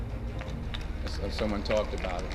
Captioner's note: applause